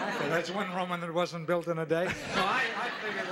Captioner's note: audience laughing